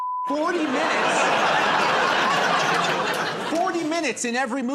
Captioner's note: laughter